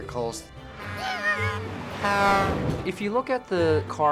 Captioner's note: george whimpers as car sounds horn